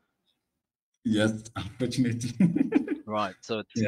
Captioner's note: chuckles